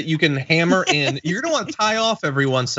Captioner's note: laugh